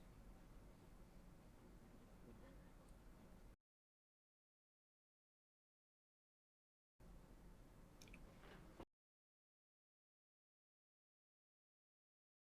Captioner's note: silence